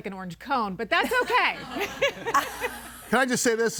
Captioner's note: audience laughing; laughs